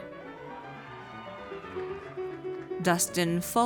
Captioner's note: audience cheers